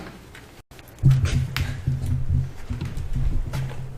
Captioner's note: thumping